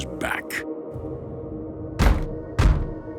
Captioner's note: banging